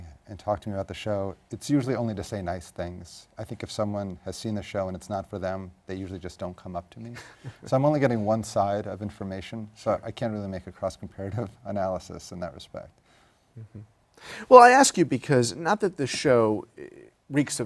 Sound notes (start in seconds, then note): 7.2 laugh